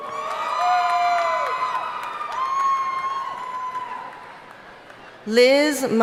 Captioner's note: audience cheering and applauding